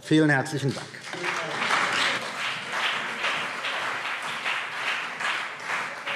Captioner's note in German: Beifall CDU und BÜNDNIS 90/DIE GRÜNEN